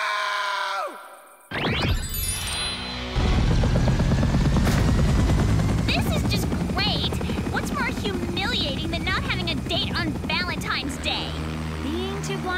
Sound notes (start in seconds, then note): 4.7 helicopter whirring